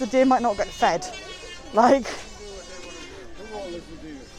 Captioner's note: electric saw noises